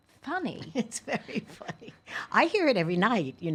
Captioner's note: laughing